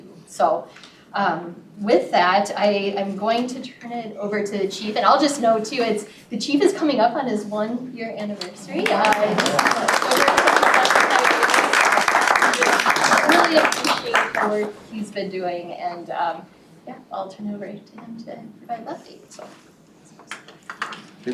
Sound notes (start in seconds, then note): 8.8 applause